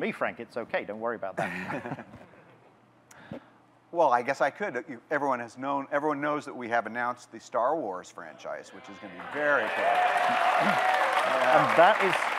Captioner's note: audience clapping, cheering